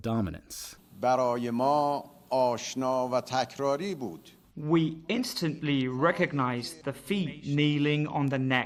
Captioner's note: through translator